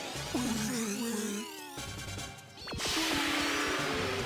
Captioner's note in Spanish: esfuerzo